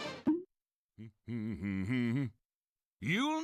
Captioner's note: humming